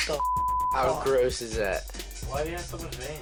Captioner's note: beep